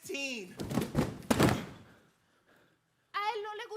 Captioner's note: boxes thudding; speaks in Spanish